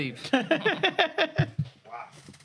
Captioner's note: laughing